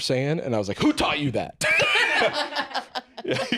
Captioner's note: others laugh